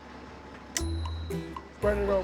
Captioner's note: snap